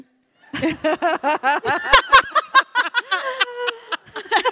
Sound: panelists laughing

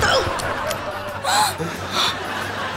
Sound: gasping

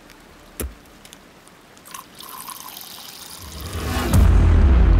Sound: water Sound

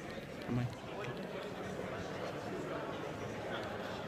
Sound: crowd murmur

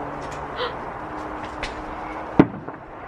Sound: gasps; fireworks explode

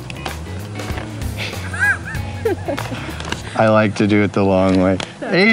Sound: laughs

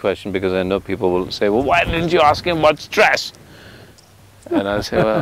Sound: Sadhguru Laughs

